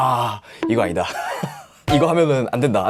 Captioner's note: laughing out loud